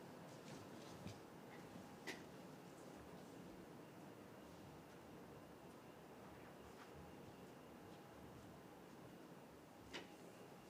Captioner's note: footsteps and chairs moving